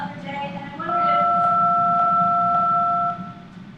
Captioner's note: phone beeping